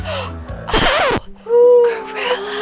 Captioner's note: record skips